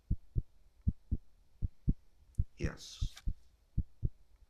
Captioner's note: heart beats fade out